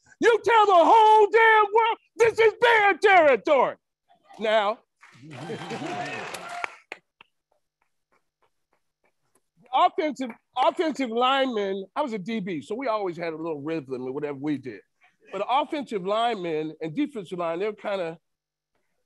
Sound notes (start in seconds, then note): 5.0 attendees cheering and applauding